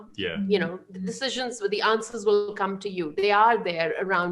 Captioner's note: laughing